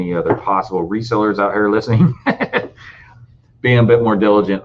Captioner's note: laughing